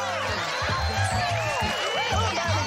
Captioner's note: cheering